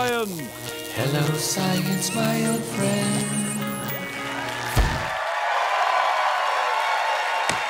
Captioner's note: cheers and applause